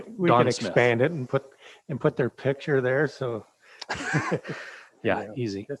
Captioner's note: chuckles